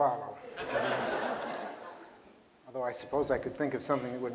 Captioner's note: laughter